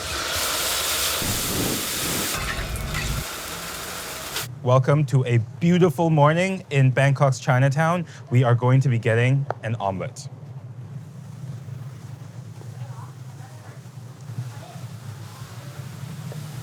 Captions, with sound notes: [food sizzling] [flames whooshing] - Welcome to a beautiful morning in Bangkok's Chinatown. We are going to be getting an omelet.